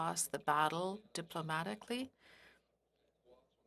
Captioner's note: speaking French